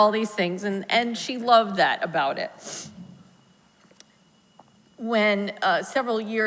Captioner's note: sniffles